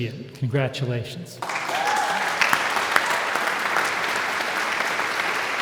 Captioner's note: audience applauds